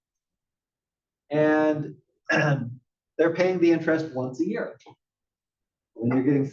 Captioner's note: cough